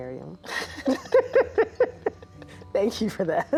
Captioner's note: both laugh